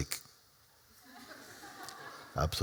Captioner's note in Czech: Smích